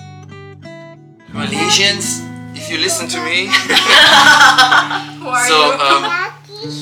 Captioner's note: laugh